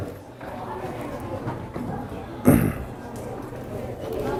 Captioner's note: kids chattering